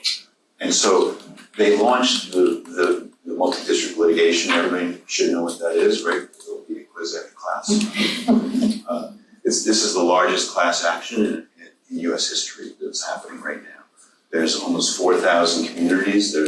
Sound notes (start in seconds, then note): 7.7 laughs